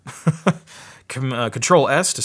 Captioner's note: laughing